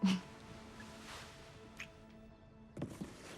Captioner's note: she chuckles